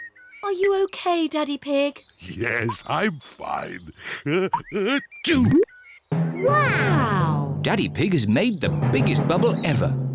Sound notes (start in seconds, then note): 4.2 sneezes